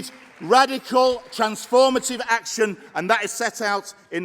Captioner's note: applause